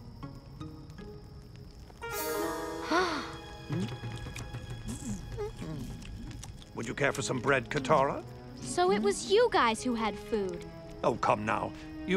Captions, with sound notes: [gasping] Would you care for some bread, Katara? So it was you guys who had food! Oh, come now, you really think